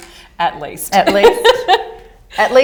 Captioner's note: laughter